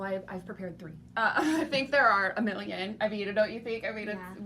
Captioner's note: laughs